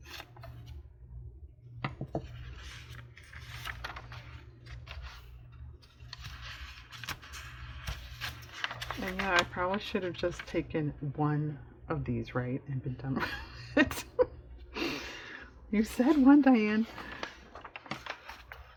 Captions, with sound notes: and yeah i probably should have just taken one of these right (laughs) and been done with it? you said "one," Diane